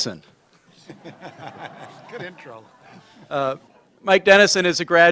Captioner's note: laughter